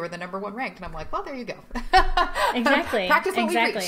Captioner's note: laughing